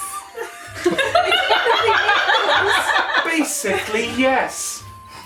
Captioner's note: laughter